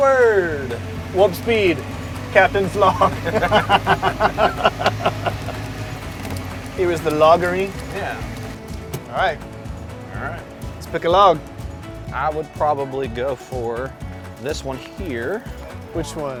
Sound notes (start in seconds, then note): 2.8 both laughing